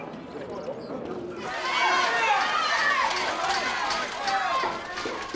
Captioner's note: crowd screaming